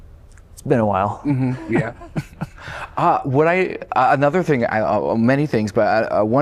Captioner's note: laughter